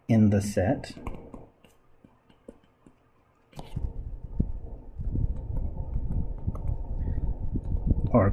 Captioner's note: writing Sounds